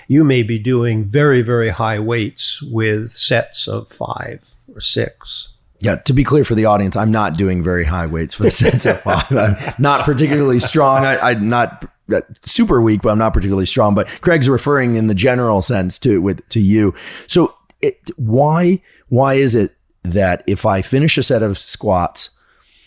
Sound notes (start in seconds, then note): 8.4 chuckles; 8.4 laughs